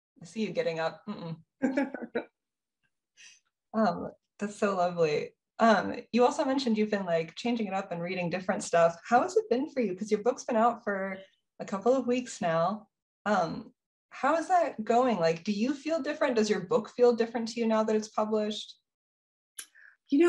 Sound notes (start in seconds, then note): 1.6 laughs